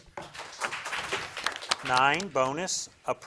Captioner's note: crowd claps